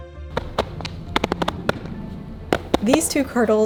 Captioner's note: soft smacking